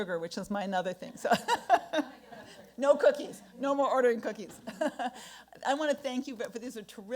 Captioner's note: laughs